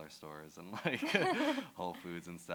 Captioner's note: laughter